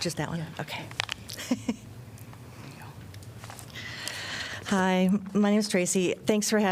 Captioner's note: laughter